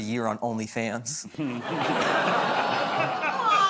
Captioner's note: laughter